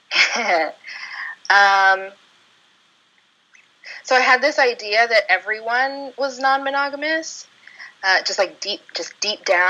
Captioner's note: chuckle